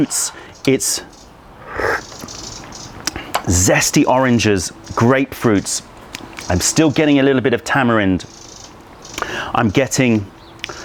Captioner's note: sips tea